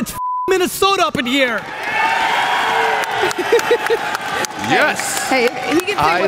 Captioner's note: woman laughs; audience applause